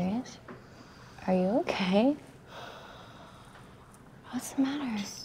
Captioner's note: Ashley sighs